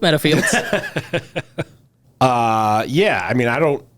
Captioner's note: laughs